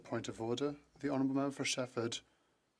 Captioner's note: speaking FRENCH